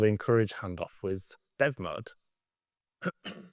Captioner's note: clears throat